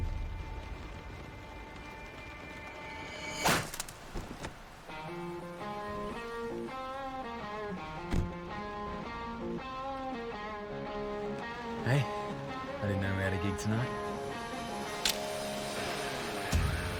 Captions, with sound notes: [whip crack] [rock guitar intro] Hey. I didn't know we had a gig tonight. [blade snaps]